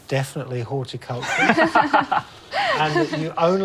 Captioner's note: both laugh